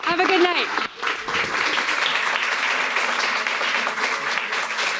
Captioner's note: audience applauding